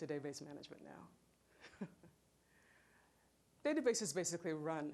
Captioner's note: chuckling